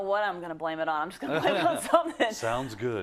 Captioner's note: laugh